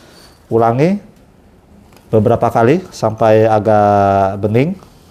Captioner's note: none